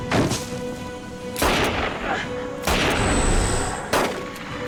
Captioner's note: gunshots